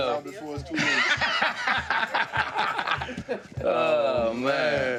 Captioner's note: laughter